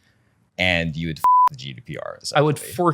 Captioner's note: beep